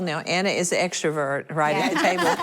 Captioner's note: laughing